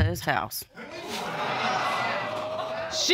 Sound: audience exclaims

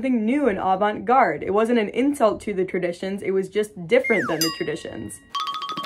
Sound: slide whistle sound effect; cartoon walking sound effect

